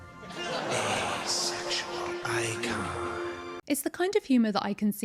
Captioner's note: audience laughing